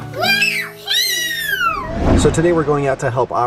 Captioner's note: kids cheering